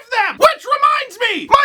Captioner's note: shouting